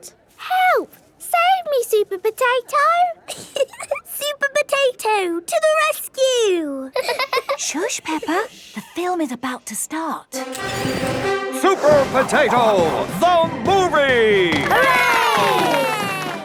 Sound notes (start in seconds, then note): 6.9 both laughing; 10.4 heroic music; 14.2 applause